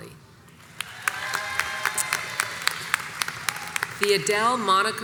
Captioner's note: crowd cheers and applauds